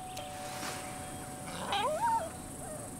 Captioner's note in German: Klingeln; Winseln